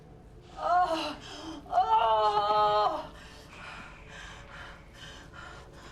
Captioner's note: moaning